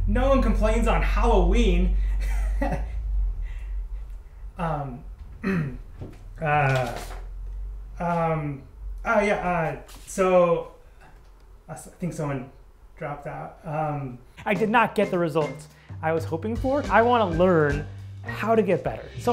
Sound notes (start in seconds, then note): 2.1 laughs; 5.4 clears throat; 6.8 stammers